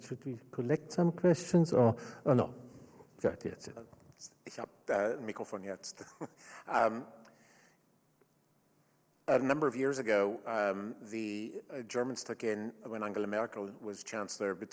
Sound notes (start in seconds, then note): 4.6 questioner speaks in German; 5.9 questioner laughs